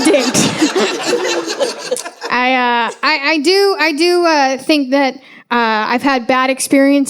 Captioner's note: audience laughing